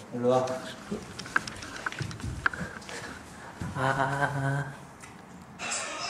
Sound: hurriedly

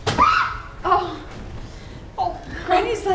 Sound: screaming

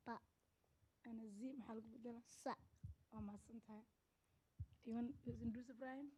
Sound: speaking Somali

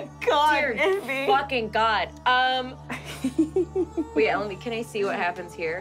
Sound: giggling

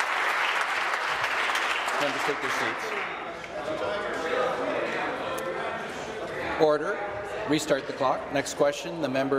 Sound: applause

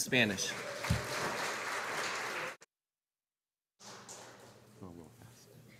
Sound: audience applauding

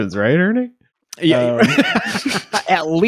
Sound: laughing

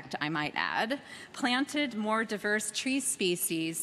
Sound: none

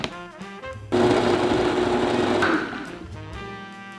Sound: blender running

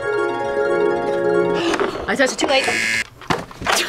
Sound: angelic music; gasps; buzzer rings

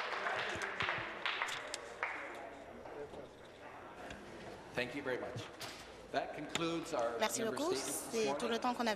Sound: some Applause

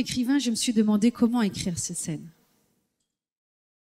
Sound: foreign language

